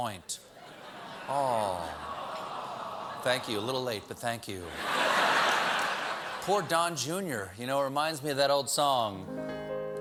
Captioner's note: crowd says, oh